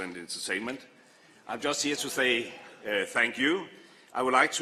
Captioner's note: none